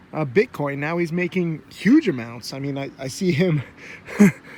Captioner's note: laughs